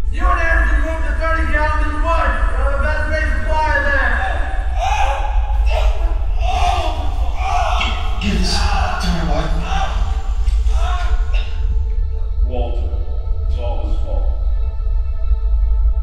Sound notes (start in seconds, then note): 0.0 soft music; 4.9 Lewis crying out; 11.5 crying out